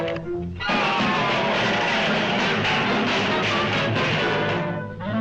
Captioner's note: metal clattering